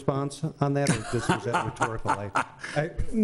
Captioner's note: man laughing